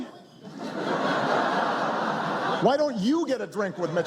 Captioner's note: crowd laughs